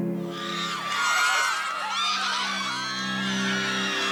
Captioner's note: girls screaming